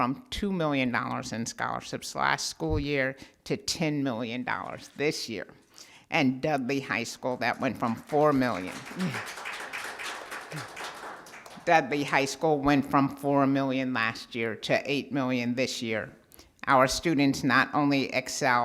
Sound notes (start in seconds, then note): 7.6 applause sounds